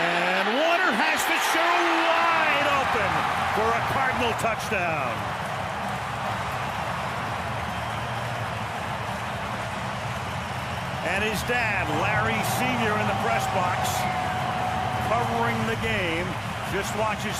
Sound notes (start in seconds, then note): 5.5 crowd cheering